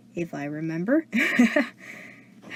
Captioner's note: laughs nervously